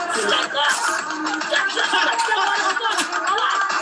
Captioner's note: speaking guyanese